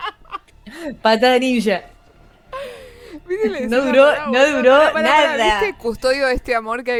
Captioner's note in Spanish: risas; grito ahogado